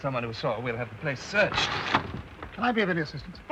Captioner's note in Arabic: صوت الباب ينفتح